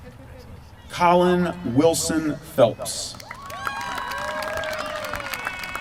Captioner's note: applause